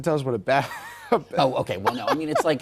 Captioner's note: laughter